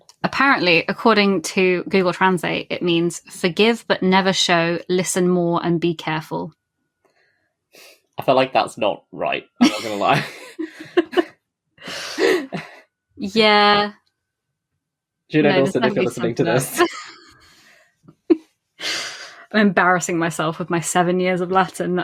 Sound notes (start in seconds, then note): 9.6 laughs